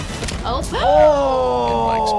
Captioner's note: gasps